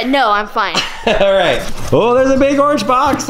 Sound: laughs

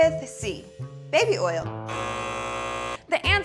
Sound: buzzer sounds

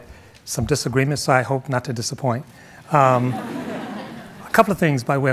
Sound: audience laughing

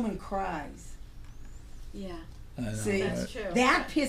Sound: voiceover

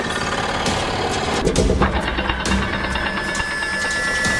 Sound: machine whirring

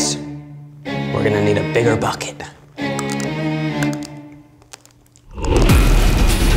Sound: crunches dry pasta; upbeat adventure music

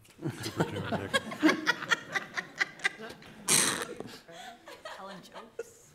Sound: laughter

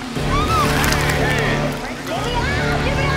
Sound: screams

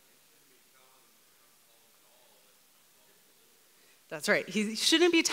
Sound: man speaks off mic

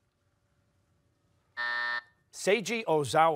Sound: buzzer

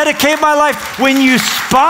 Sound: applause

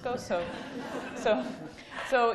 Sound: laughing

